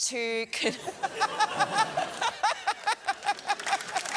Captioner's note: laughter